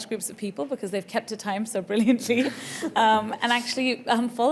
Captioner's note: giggles